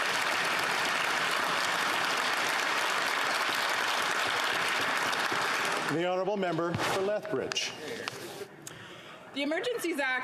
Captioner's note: some Applause